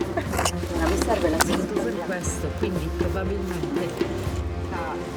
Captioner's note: archeologic chattering